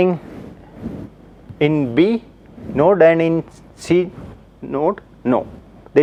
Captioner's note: steps